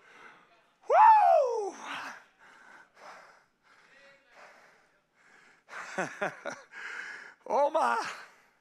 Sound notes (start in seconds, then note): 4.3 panting; 5.9 preacher laughing